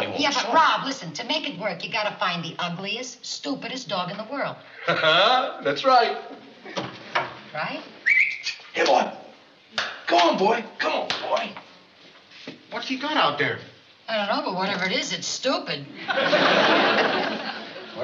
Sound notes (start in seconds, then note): 8.0 whistles